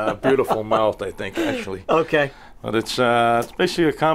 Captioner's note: laughter